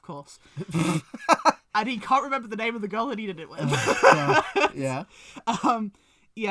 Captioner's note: laughs